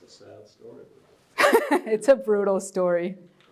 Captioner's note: laugh